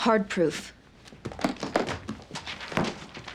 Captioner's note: briefcase clattering